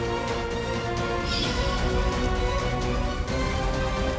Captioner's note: fire crackling